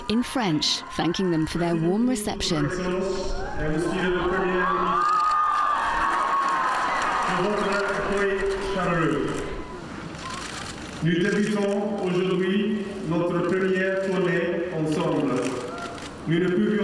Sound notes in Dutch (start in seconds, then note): 2.7 Prins William spreekt in het Frans; 4.9 publiek juicht; 8.1 Prins William spreekt in het Frans; 12.6 camera's klikken